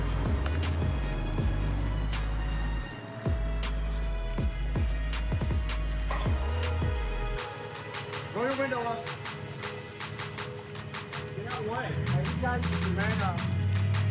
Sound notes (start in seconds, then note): 3.7 footsteps